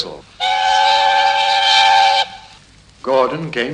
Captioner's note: train whistle